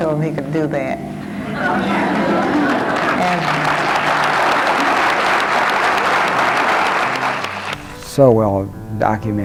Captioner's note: clapping